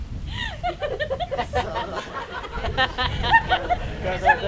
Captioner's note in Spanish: risas